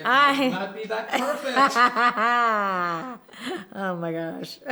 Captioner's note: laughing